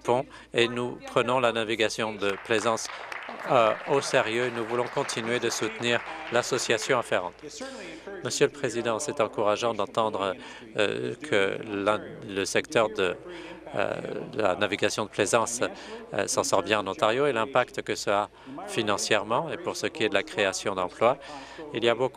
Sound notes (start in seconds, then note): 6.6 applause